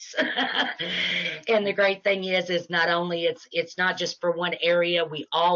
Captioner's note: laughing